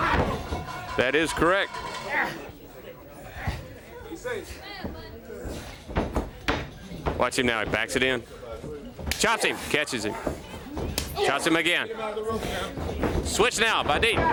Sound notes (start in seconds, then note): 3.1 crowd chatter